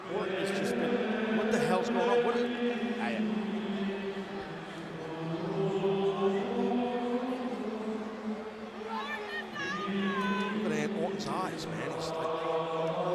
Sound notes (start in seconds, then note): 5.3 group chanting